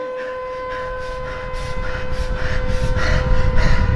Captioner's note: siren alarm